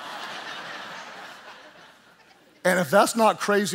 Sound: congregation laughing

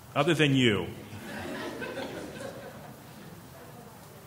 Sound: laughing

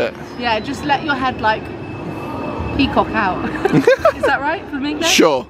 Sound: laughs

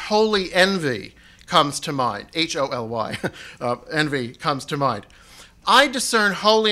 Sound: chuckles

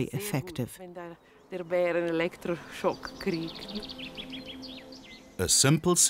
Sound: speaking in foreign language

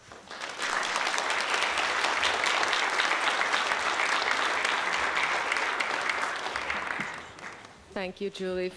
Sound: applause

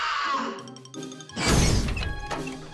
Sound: explosive noise

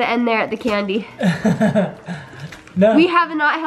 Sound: chuckling

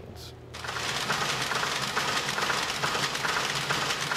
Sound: machines clattering

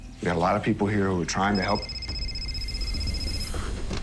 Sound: phone ringing

